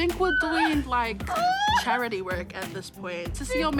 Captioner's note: whimpers, sobs